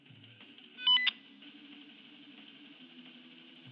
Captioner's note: beeping